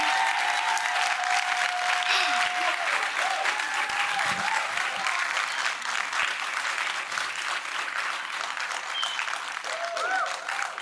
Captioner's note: cheers and applause